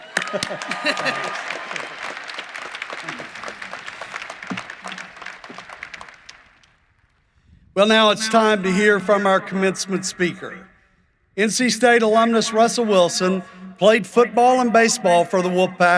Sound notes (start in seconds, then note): 0.0 applause; 3.9 cheering and applause